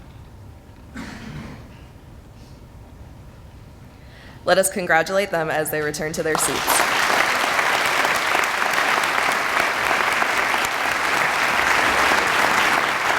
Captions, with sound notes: Let us congratulate them as they return to their seats. (audience applauding)